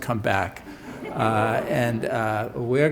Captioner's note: laughter